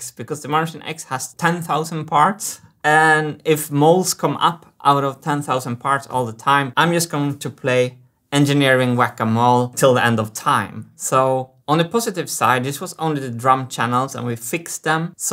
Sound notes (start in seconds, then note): none